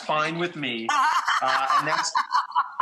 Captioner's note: Rachael Ray laughs